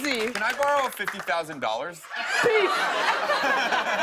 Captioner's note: laughter